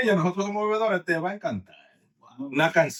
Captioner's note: speaking In Foreign Language